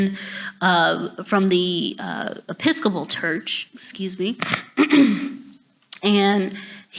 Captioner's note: clears throat